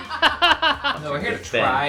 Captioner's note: all laughing